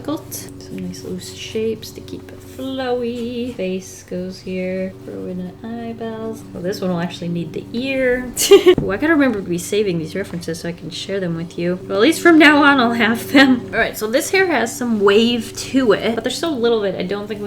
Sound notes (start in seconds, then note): 8.0 laughs